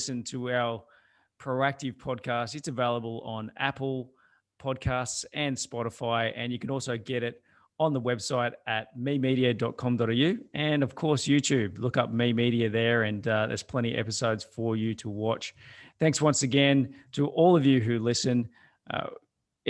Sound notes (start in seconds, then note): none